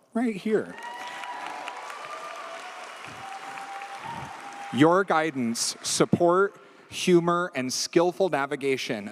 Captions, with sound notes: right here. (audience cheers) Your guidance, support, humor and skillful navigation